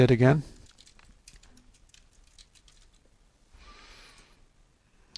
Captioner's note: typing